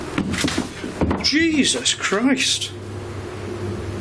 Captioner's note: knocking